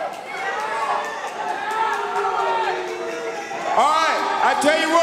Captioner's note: audience chatter